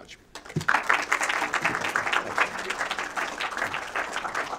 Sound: applause

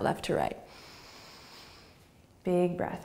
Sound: inhaling

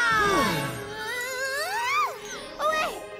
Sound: shrieking

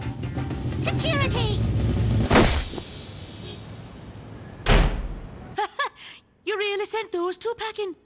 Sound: thump; door slam; laugh

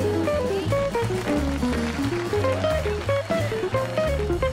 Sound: crowd applauding

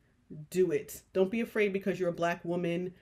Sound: none

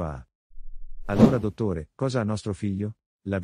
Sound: FX - Whoosh - 03

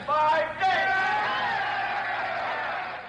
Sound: wild cheering

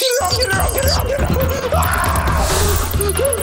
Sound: screaming

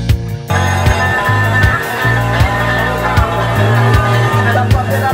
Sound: alarm bells ringing, game music

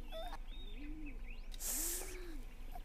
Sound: inhales sharply

